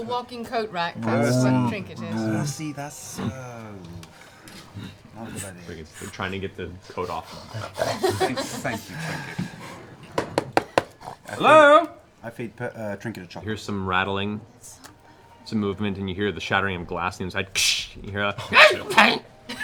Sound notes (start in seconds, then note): 10.1 knocking; 18.4 frustrated noise